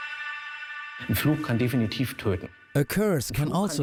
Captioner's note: speaks German